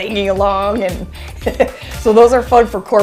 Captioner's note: chuckles